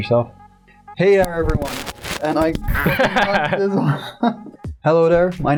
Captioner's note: laughter